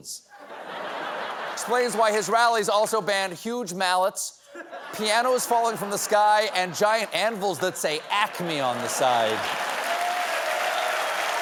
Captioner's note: laughter